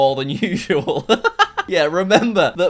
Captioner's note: laughing